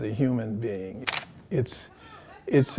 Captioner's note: camera shutter clicks